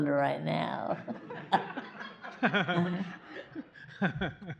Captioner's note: laughter